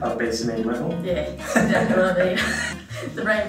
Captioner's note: laughter